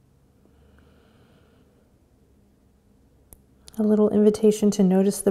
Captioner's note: deep inhale